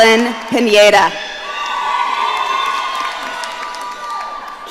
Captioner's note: audience cheering